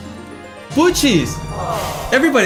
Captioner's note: aww